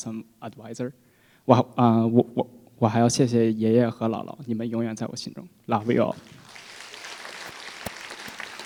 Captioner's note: foreign Language